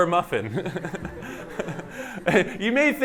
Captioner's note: laughter